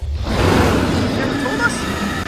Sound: dinosaur roars

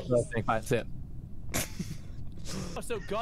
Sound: laughter

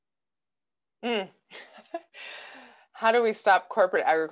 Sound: laughs

